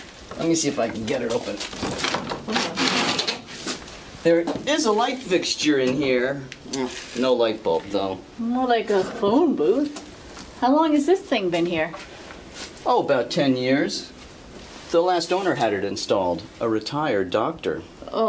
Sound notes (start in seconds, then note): 1.7 door creaking